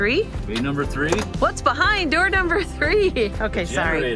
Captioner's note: giggles